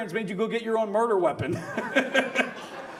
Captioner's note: audience laughs; laughs